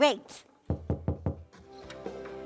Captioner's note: knocking